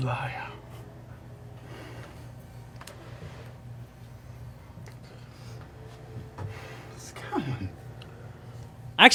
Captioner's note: pleading